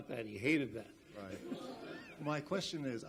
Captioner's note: audience laughs